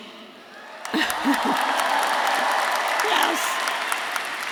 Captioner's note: audience cheering; audience applauding